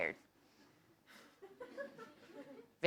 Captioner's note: laugh